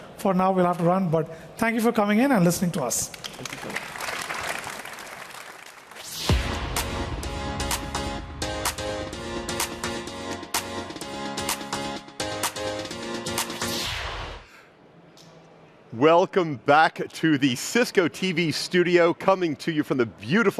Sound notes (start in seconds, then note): 6.5 applause